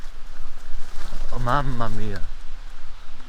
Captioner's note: speaking spanish